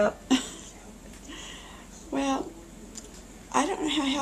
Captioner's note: chuckles